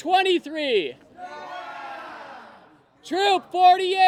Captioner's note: cheers and applause